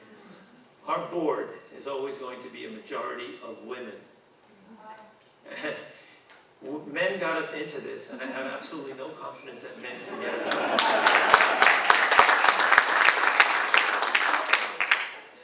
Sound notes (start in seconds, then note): 5.5 chuckling; 9.8 audience laughing; 10.1 audience applauding